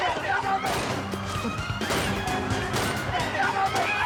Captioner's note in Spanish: gritos